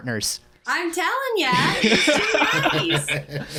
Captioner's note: laughter